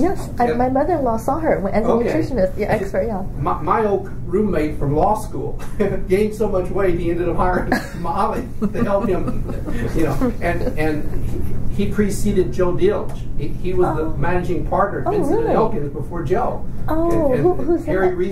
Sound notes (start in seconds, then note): 7.4 laughs